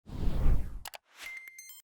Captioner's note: air whooshing; electronic beeping